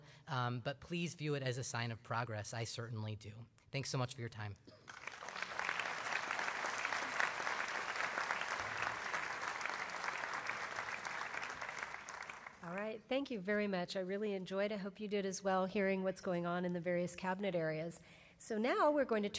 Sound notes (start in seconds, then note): 6.4 applause